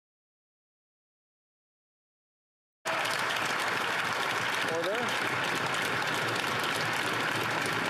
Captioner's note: continued applause